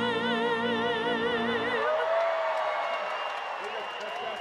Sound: applause

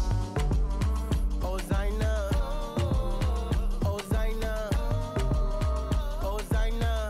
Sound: foreign language; music fades

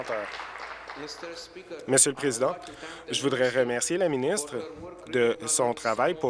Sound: applause

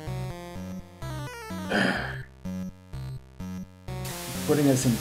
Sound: growls

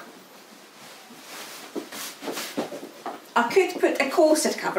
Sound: heels clacking

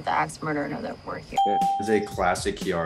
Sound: ding

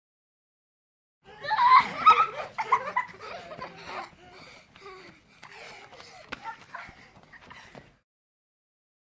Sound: sound of kids playing

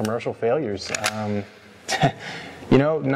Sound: gun clicks; laughs

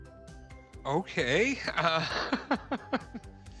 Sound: laughing

